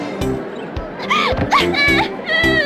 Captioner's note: Asuka cries